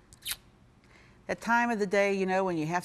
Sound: tongue clicks

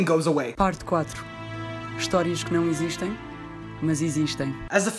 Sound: in Portuguese

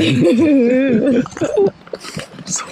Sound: laugh; tertawa

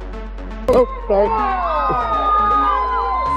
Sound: cheering

